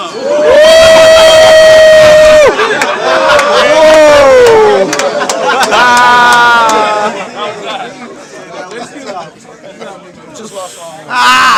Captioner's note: crowd Reaction